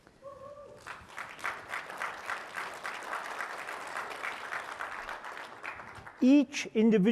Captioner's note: applause